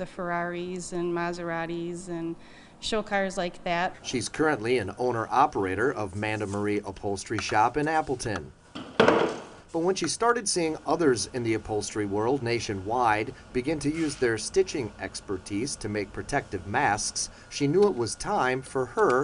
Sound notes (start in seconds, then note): 8.8 nat sound pop